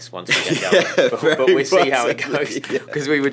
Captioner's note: laughs